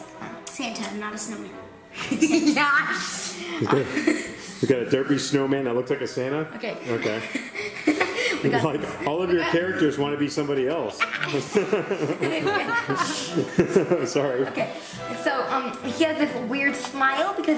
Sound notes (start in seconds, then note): 10.8 laughing